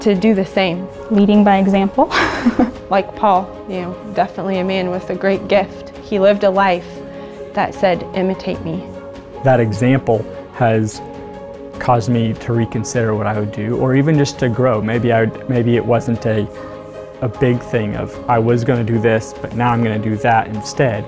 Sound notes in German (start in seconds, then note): 2.1 lacht